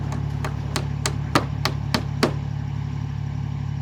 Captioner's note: hammer knocking